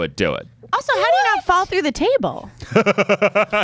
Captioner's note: laughter